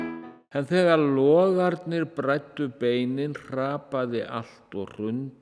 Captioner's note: speaking in Icelandic